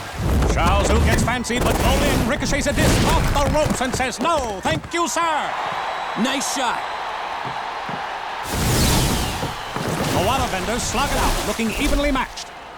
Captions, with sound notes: Shaozu gets fancy, but Bolin ricochets a disk off the ropes and says, "No, thank you sir!" Nice shot! [audience cheering] The waterbenders slug it out, looking evenly matched.